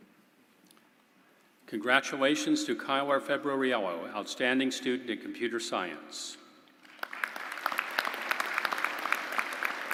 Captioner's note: applause